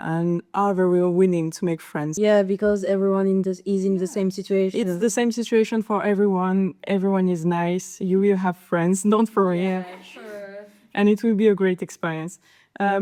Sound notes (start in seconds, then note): 9.7 laugh